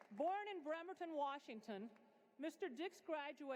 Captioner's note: applause